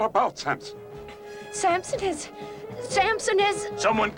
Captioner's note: panting heavily